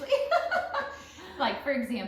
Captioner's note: laughter